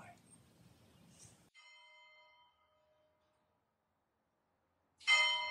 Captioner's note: soft bell chiming